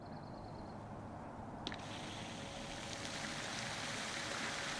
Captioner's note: fountain sprinkling